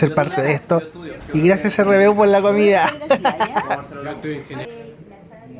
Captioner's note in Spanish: risas